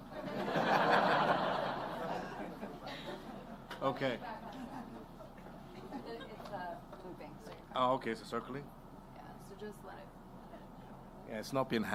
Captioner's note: laughter